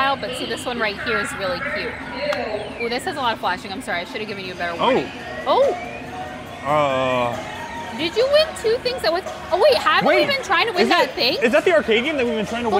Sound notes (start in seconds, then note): 6.6 groans